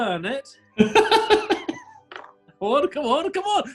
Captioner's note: laughing